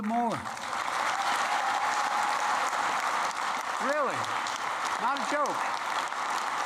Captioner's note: applause